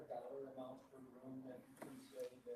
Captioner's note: man speaking off mic